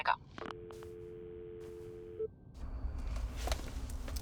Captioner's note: phone droning